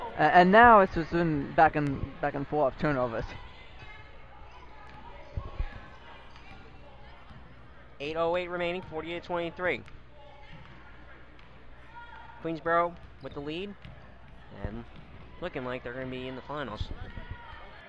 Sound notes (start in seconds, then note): 3.9 crowd talking; 17.6 crowd talking and yelling